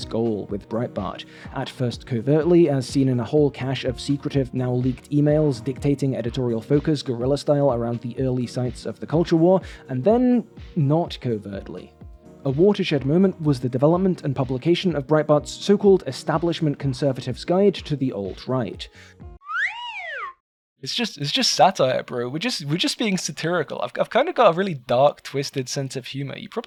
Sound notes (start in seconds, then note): 19.4 slide whistle sound effect